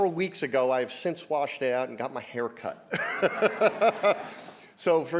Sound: chuckles

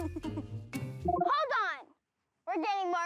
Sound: laughs; beeps

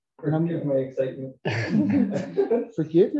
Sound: laughter

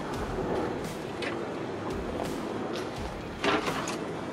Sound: wind blowing

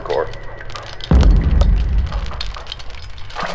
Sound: explosion further away

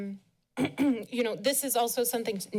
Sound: clears throat

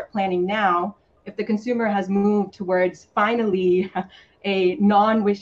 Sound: chuckles

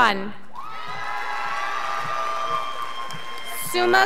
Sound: scholars applauding

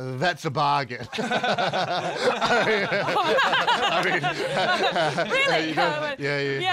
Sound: laughing

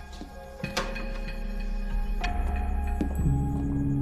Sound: locks clattering

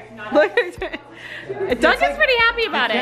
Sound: laughing

